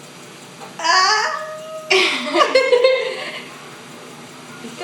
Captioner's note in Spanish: Risas